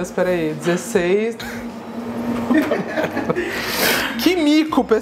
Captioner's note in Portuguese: risos